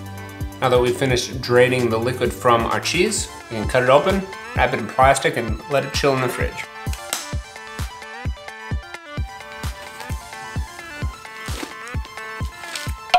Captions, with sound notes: Now that we've finished draining the liquid from our cheese, we can cut it open, wrap it in plastic, and let it chill in the fridge. (string snaps) (upbeat techno music)